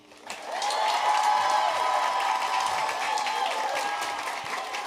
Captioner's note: audience cheering